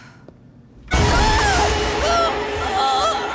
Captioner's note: screaming, groaning